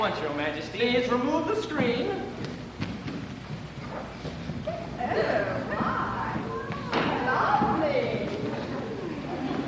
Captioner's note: loud laughter and sounds of large audience of children